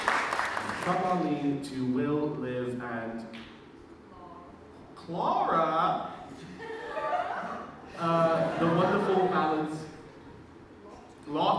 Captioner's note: audience cheers and claps; laughter